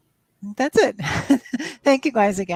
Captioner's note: chuckles